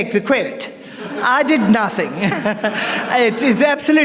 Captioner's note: audience laughs